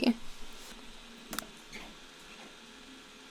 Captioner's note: mouse click